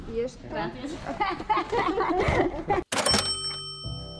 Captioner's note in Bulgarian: смях